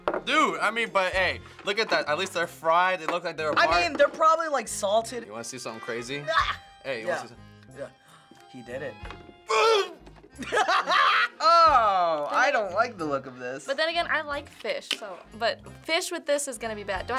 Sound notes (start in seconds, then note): 6.3 disgusted noise; 9.4 groaning in disgust; 10.4 laughs